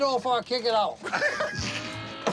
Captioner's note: laughing